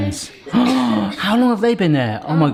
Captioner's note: gasps